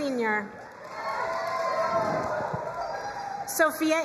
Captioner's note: crowd cheering and applauding